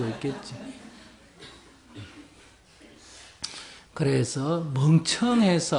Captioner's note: audience Laughter